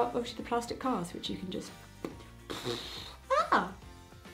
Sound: air blowing; lips smacking

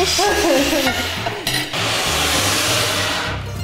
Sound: scraping

